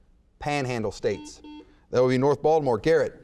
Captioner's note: buzzer beeps